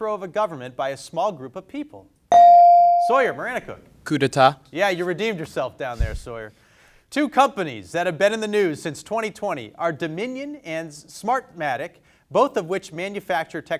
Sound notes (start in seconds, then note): 2.3 bell dings